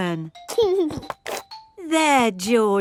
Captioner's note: giggling